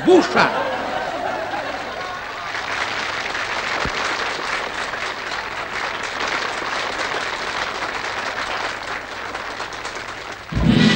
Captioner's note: applause